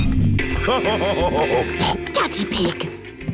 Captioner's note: laughs / honks